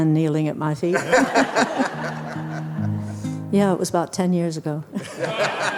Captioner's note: everyone laughs